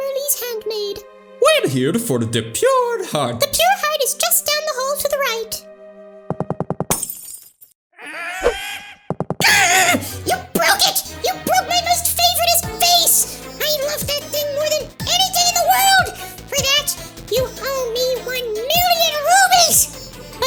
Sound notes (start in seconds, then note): 6.9 vase breaks; 7.9 mimi grunts